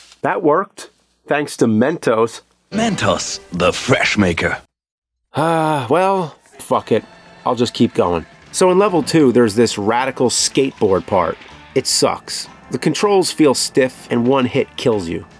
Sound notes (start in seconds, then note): 5.3 sigh